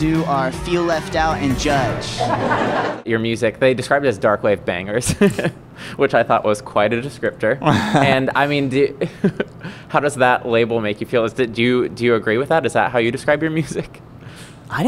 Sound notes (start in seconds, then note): 2.2 laughter; 5.5 chuckles